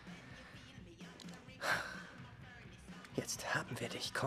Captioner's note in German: seufzt